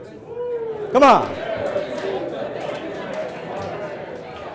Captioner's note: crowd whoop and high five